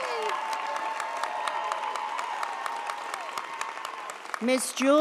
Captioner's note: audience applauds